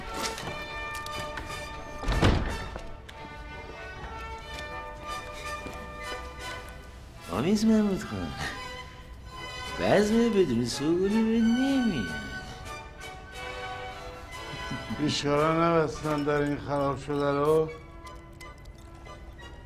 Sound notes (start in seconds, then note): 2.0 door closing